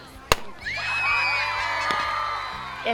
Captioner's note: cheers